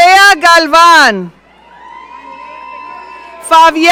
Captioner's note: audience cheering